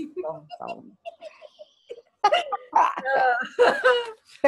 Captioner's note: laughing